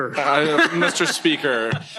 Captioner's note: laughter